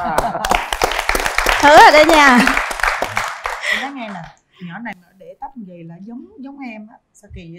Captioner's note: applause